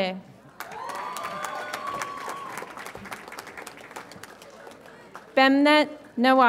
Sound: audience applauds and cheers

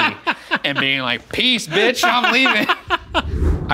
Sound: laughing

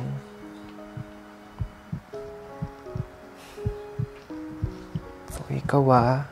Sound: heart beats loudly

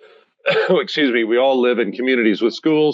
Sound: coughs

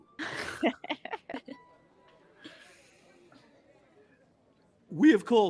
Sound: chuckling

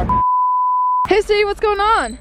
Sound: beep

